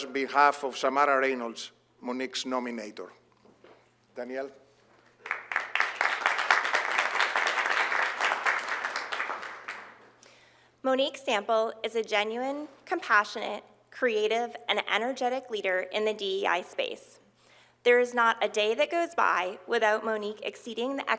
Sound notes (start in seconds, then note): 5.1 applause